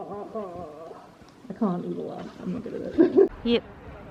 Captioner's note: laughs